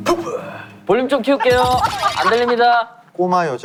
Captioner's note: laughing out loud